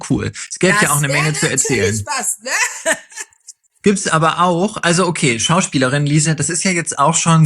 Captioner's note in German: gelächter